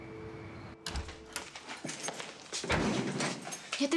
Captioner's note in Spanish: sonido al abrir la puerta